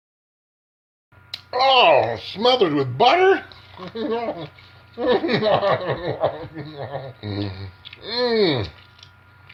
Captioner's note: eating noises, laughing